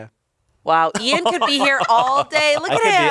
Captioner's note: crew laughs